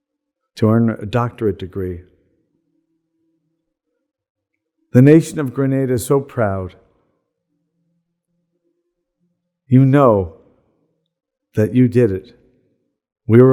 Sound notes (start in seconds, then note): none